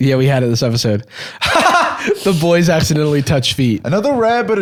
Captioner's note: laughs